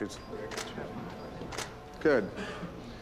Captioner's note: camera clicking